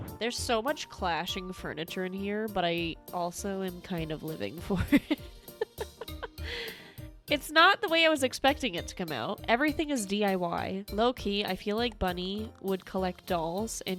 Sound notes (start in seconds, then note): 5.5 maniacal giggling